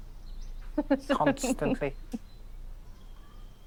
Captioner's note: in the voice of Bill